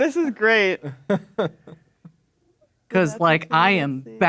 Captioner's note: laughing